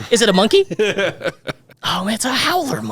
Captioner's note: laughing